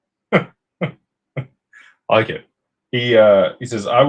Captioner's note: laughter